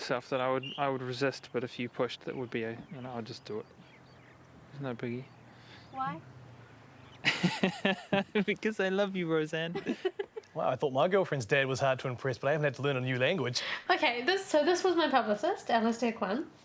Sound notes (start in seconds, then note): 7.2 laughing